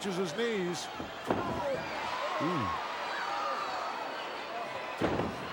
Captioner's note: crowd murmuring